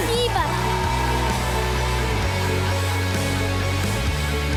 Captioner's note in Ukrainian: оплески